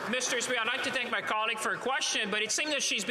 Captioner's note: some Applause